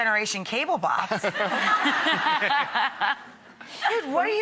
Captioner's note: laughing